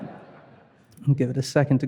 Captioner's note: chuckling; audience laughing